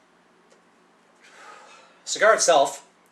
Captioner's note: loudly exhales